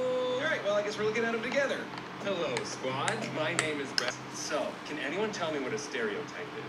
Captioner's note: Brooklyn Nine-Nine S7 playing in the background